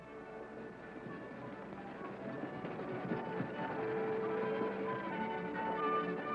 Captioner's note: stagecoach rattling; hooves thudding